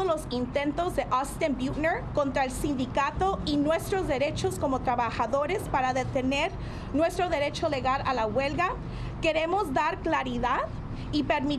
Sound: speaking spanish

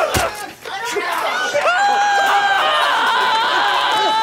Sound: thud; screams

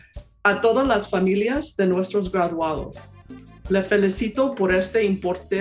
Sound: speaks in foreign language

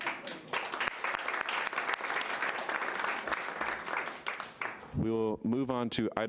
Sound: audience applauding

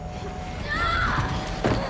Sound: screaming

